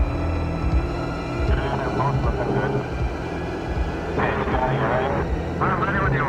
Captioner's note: garbled speech over radio